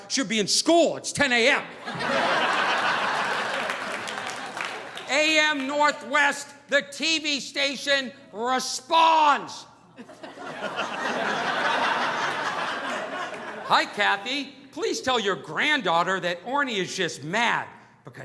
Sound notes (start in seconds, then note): 1.7 audience laughing; 9.9 audience laughing